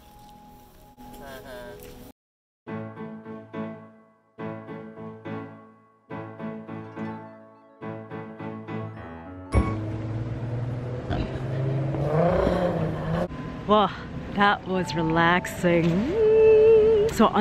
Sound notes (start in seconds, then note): 0.6 man laughing jokingly; 2.7 calming piano music; 11.7 car engine revving